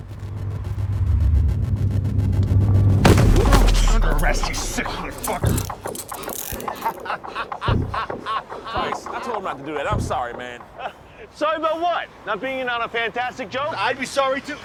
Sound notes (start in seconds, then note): 4.8 handcuffs tightening; 6.7 laughing